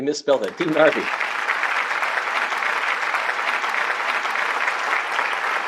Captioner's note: applause